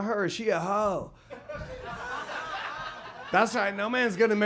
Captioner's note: audience laughs